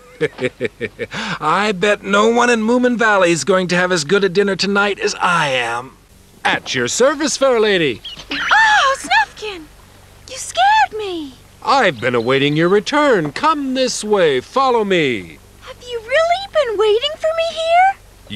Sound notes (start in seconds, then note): 0.0 chuckling; 6.3 in a fancy voice